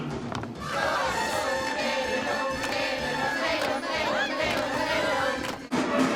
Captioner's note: party chatter